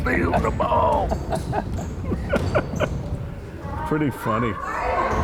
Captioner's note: both laughing